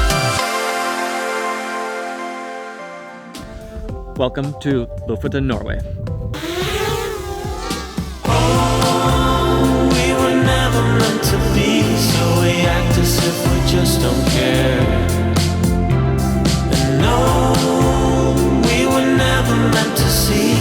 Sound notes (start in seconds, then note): 6.5 drone buzzes; 8.6 bright music